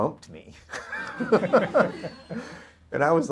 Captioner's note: audience laughter